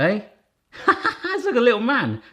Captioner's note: laughs